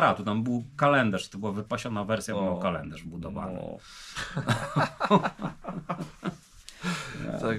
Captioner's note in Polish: śmiech